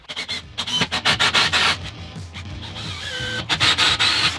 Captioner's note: drilling